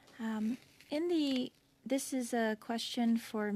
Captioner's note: speaking French